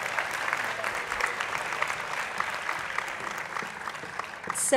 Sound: applause

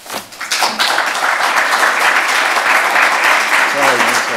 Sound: audience applauds

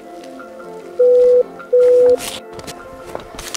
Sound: beep Beep

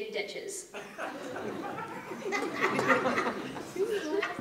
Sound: laughter

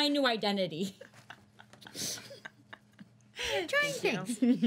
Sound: girls laughing

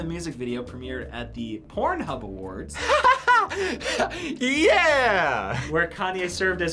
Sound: laughs

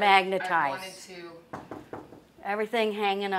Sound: wall knocking

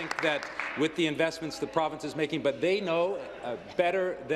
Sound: applause

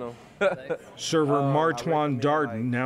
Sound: laughter

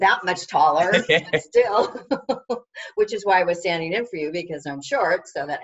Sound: laughs

